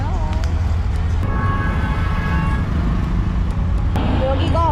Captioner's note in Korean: 어마어마한 경적소리